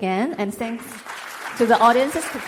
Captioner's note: congregation clapping